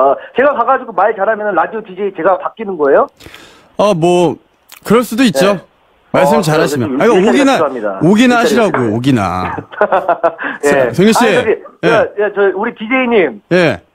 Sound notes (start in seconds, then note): 9.4 laughs